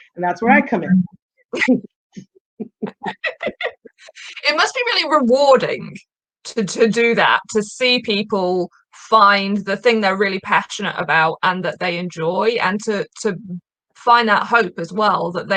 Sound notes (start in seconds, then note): 2.6 laughing